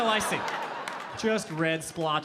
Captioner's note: audience laughing